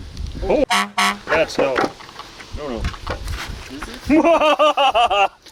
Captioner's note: beep